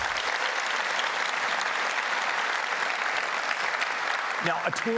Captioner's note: applause